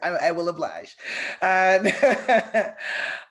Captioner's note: laughs